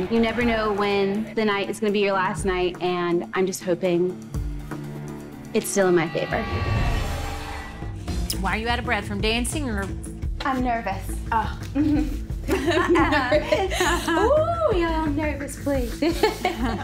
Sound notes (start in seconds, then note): 6.7 slow music; 12.4 women laughing